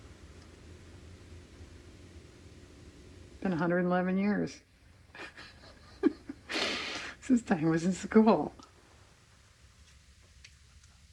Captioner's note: laughs